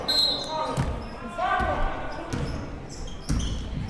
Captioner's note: whistle blows